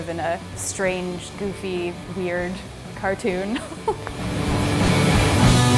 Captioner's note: laughs